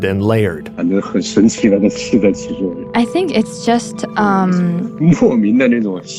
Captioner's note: speaking Mandarin Chinese